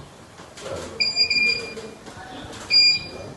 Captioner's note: suono dell'ecografo